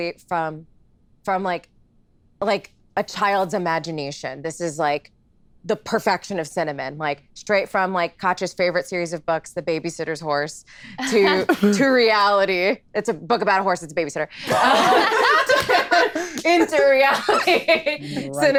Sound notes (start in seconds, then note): 14.4 all laughing